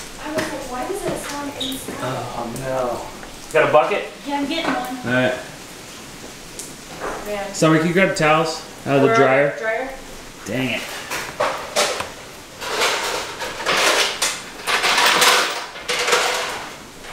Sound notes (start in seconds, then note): 12.6 kitchenware clanging